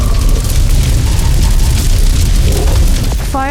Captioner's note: fire roaring